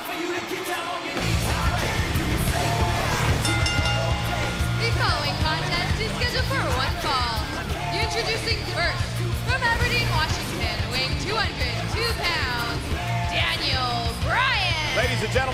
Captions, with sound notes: >> [CROWD CHEERING] >> [BELL RINGING] >> THE FOLLOWING CONTEST IS SCHEDULED FOR ONE FALL. INTRODUCING FIRST FROM ABERDEEN, WASHINGTON, WEIGHING 202 POUNDS, DANIEL BRYAN.